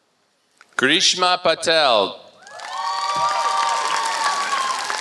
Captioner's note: applause